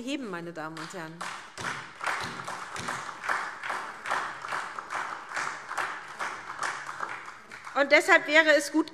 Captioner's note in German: Beifall SPD